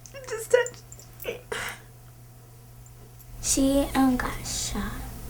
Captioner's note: voice breaking